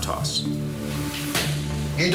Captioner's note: hands Smack